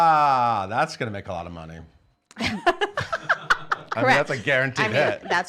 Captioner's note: laughs